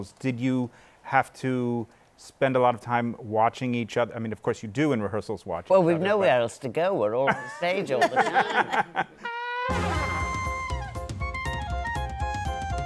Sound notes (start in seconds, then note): 7.3 laughter